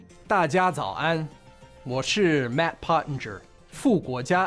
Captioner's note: Matt speaking in Chinese